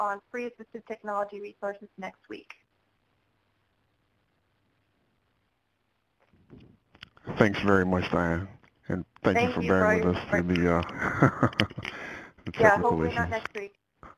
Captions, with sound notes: free assistive technology resources next week. - [Voiceover] Thanks very much, Diane. - [Voiceover] Thank you. Yeah, hopefully not next week.